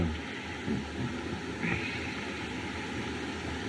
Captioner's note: chuckles